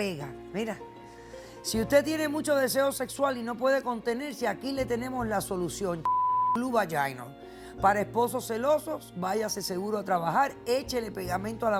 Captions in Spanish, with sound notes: PICA Y PEGA. -MIRA- SI USTED TIENE MUCHO DESEO SEXUAL Y NO PUEDE CONTENERSE, AQUI LE TENEMOS LA SOLUCION. [Bip] PARA ESPOSOS CELOSOS. VAYASE SEGURO A TRABAJAR. ECHELE